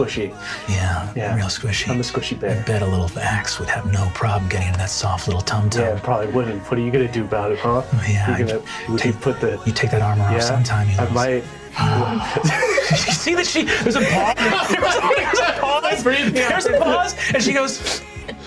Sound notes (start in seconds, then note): 11.9 everyone laughs